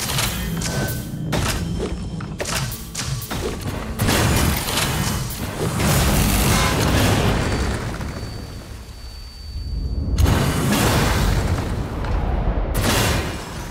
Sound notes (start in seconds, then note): 3.7 guns firing; 3.7 bomb exploding; 10.1 crashing and rumbling